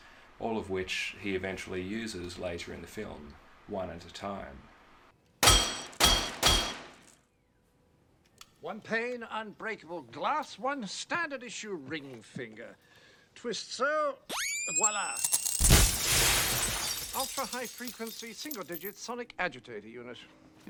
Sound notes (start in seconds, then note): 5.4 gunshot, glass cracking × 3; 14.0 high-pitched hum; 14.7 glass shattering